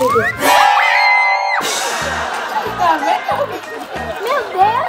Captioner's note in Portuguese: grito; som de espanto; som de prato de bateria; risada de bebê